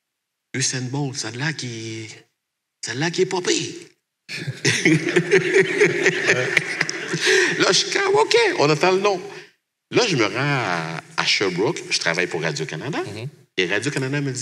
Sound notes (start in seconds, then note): 4.3 laughs